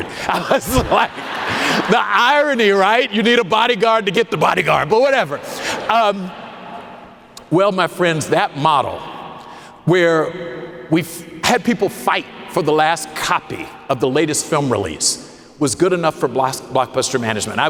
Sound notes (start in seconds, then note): 5.0 audience laughing